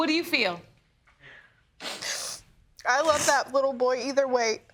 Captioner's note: sniffles